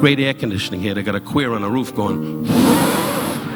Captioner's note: blowing